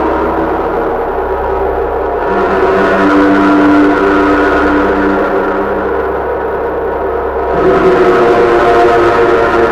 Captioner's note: suspenseful sound